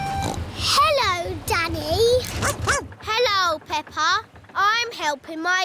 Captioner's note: snorts; barks